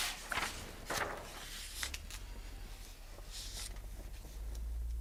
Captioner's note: pages flapping